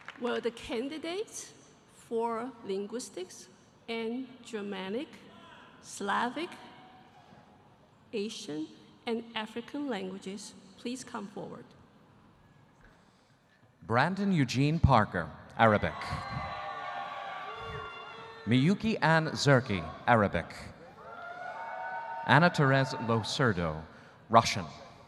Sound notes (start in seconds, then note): 15.8 audience cheering